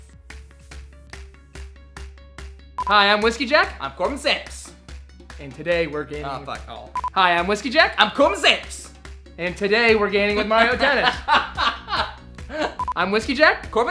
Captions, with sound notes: Hi, I'm Whiskey Jack. I'm Corbin Sanders. And today we're gaming-- Oh, fuck, aw. Hi, I'm Whiskey Jack. I'm Corbin Sanders. And today we're gaining with Mario Tennis. [laughing] I'm Whiskey Jack.